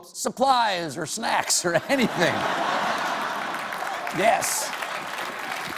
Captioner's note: applause